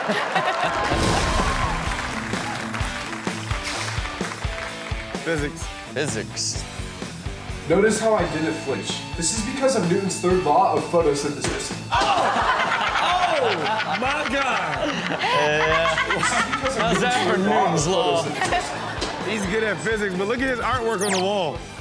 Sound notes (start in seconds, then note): 0.0 audience cheering and clapping; 3.0 upbeat music; 6.6 upbeat music; 11.5 ball bangs; 12.5 all laughing; 14.5 all laughing; 18.5 Chanel and audience laughing